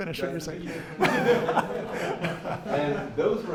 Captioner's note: laughing